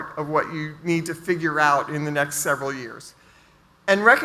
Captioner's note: none